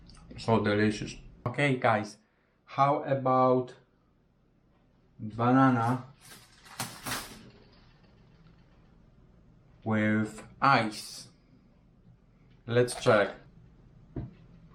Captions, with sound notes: So delicious. Okay guys, how about, banana. (plastic rustles) With ice. Lets try.